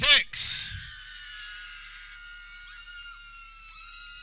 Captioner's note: people cheering